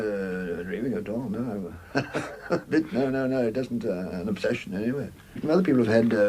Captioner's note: laughs